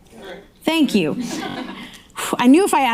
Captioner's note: audience laughing